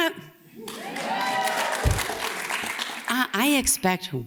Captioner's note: audience cheers